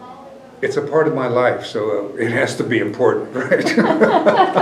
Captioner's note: laughter